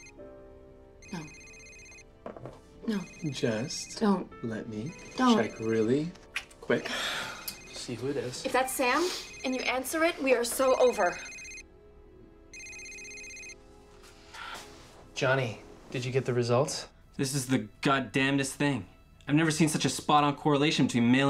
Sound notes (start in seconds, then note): 1.0 cell phone ringing